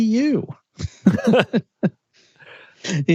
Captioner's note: laughing